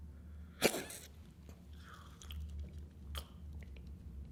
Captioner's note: hiccups; gulps water